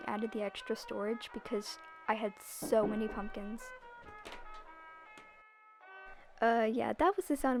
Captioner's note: knocking